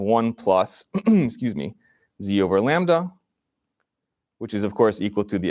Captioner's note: clears throat